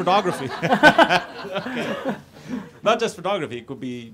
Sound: audience laughs

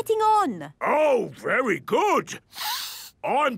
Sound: sniffs

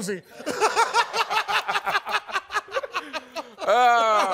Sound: laughing

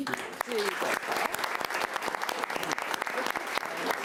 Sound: applauding

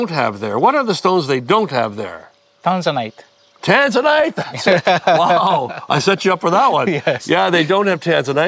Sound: both laugh

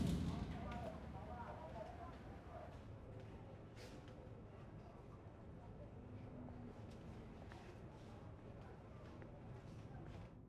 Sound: boom; voices grow more distant

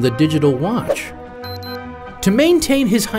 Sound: beeping

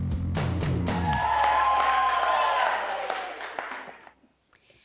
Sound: applause and Cheering

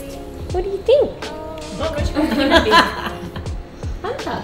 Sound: all laughing

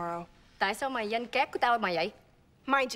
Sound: speaks vietnamese

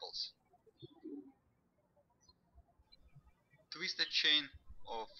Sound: birds chirping

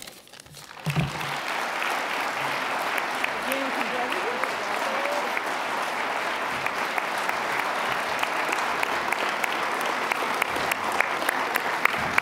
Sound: applause

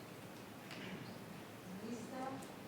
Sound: speaking faintly

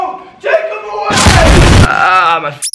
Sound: explosion

